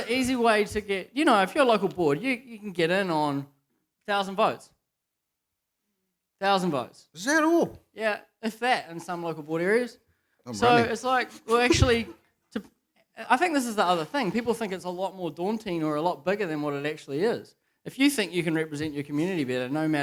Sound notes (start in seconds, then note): 11.4 chuckles